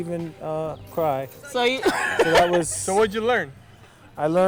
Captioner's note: laughter